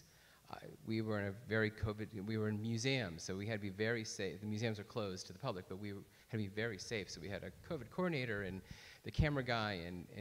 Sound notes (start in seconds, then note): none